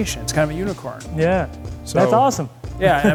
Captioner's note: chuckles